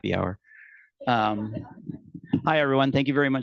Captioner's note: attendees laughing